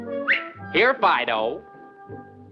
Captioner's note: whistling